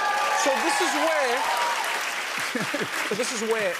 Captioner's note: cheers and applause